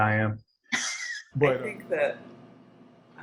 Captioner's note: laughs